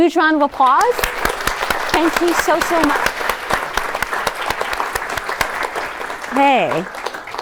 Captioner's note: applause